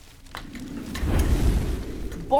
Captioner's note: whoooooosh!